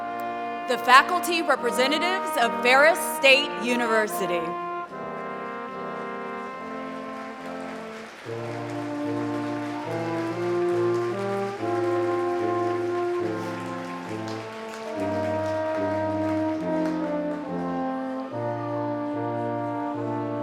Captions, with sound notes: The faculty representatives of Ferris State University. [APPLAUSE]